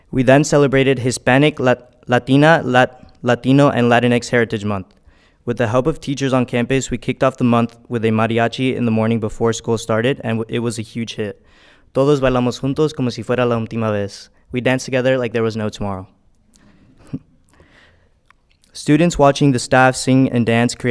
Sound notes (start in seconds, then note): 12.1 speaking in foreign language